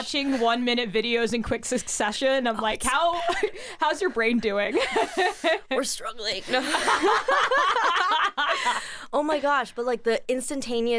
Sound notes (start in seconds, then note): 6.5 laughs; 6.5 both laughing